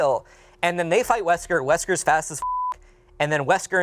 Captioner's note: beep